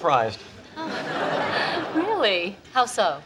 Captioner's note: audience laughs